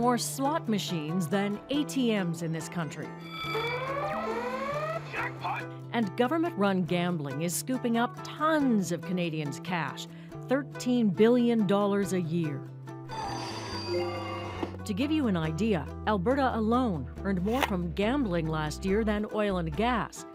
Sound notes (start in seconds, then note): 4.8 machine blares; 13.2 machine bells chime